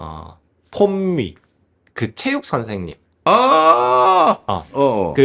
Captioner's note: exclaims